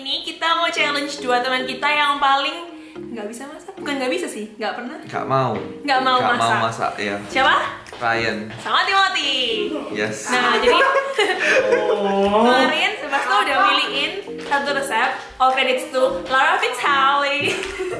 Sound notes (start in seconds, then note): 10.4 laughing like assholes; 11.7 grunting like a kid